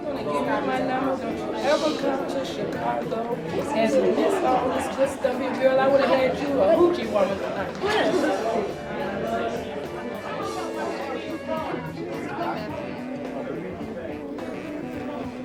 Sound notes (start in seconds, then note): 8.5 chatter